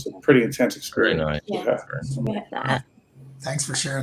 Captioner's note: murmuring